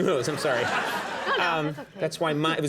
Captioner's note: audience laughing